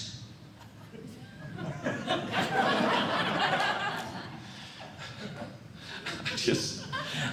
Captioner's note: audience Laughing